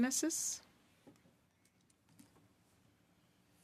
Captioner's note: speaking French